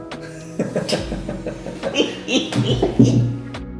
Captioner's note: both laughing